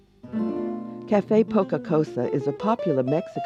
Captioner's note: voiceover